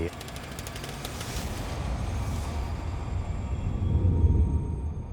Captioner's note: tense energetic music; text clicking